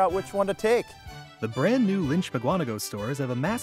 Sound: voiceover

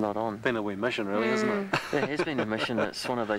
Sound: laughs

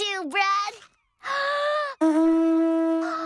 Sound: inhales; Shell Horn Blasts

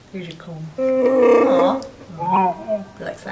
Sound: content Wookiee noises

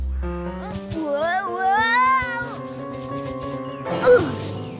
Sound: grunts

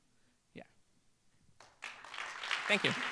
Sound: applause

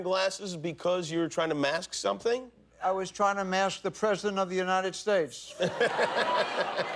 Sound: laughter

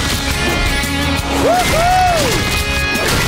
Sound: smashing taco

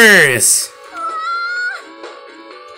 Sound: ahhh~!

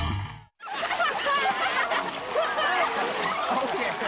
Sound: people laughing

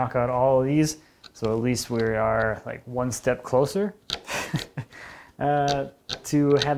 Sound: laughs

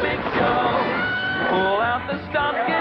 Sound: Scully screams

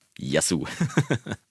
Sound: laughs

